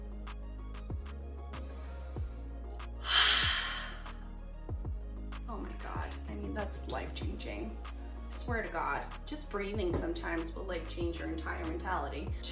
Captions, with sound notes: [inhales and exhales] Oh my God, I mean, that's life changing. I swear to God, just breathing sometimes will change your entire mentality.